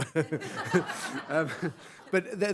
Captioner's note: audience laughs